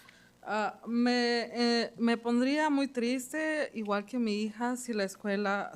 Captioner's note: speaking Spanish